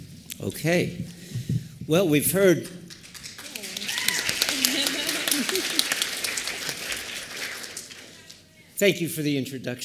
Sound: applause and laughter

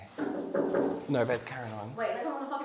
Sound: banging Contines

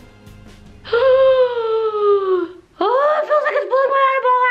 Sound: gasps

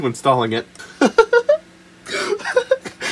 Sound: giggles adorably

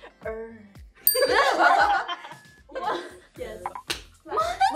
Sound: group laughing

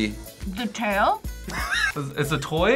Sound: React laughs

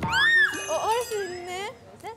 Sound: hup!

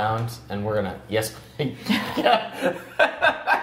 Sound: laughing

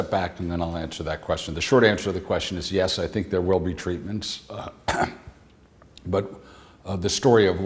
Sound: clears throat

